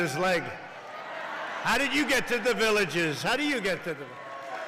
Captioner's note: applause